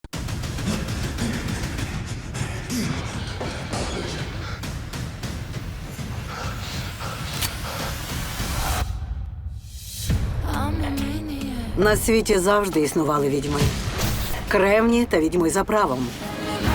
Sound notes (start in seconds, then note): 0.0 frantic music playing; 0.6 panting; 8.7 music stops abruptly